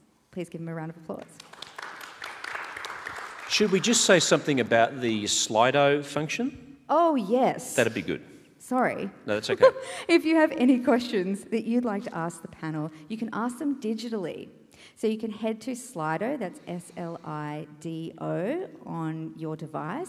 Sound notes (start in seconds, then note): 1.4 audience applauding; 9.5 chuckle